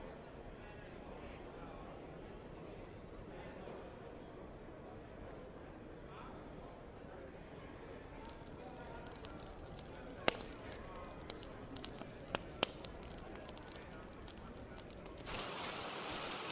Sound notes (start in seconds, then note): 8.2 fire cracking; 15.1 rain